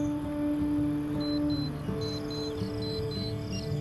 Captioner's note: alarm beeping